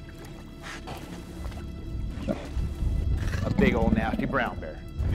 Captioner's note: huffing and low growling